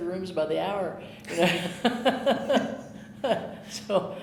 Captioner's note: chuckling